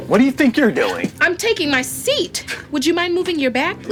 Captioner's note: scoffs